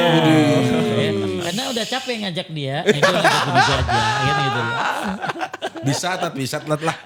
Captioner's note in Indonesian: tertawa